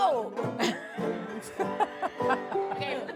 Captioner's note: laughs